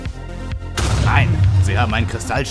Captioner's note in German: Explosion